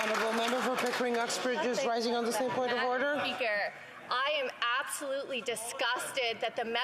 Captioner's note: applause